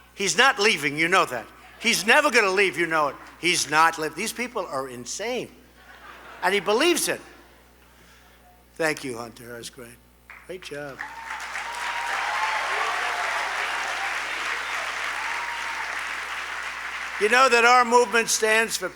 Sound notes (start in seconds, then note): 5.7 laughter; 14.8 applause